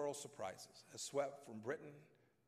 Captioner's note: none